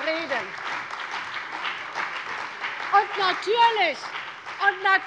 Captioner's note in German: Beifall bei der CDU und dem BÜNDNIS 90/DIE GRÜNEN